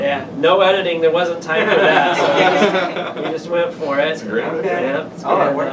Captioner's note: laughter